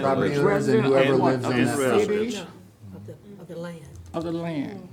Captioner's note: aldermen chattering